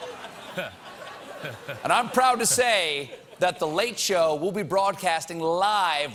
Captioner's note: laughter